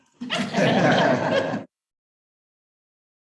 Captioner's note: chuckling